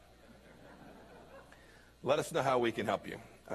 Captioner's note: laughter